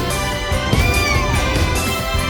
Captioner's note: meows